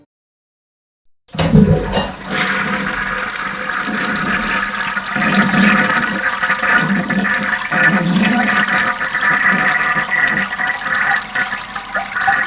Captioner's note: toilet flush